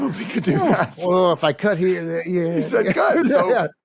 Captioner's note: laughs